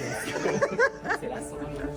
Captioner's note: laughs